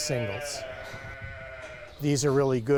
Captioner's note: sheep bleating